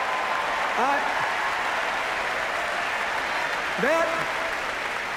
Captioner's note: cheers, applause